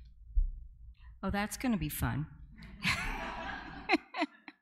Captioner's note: audience laughing; laughs